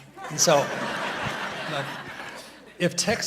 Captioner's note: audience laughing